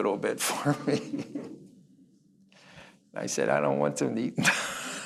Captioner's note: chuckles